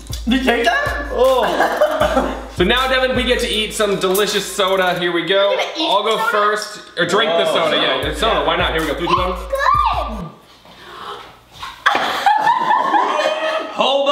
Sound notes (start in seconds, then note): 1.3 laughter; 10.8 gasps; 11.8 laughter